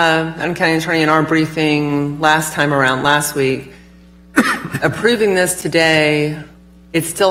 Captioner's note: laughter